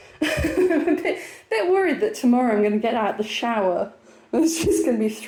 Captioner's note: laughing